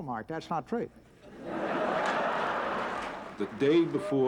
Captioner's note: laughter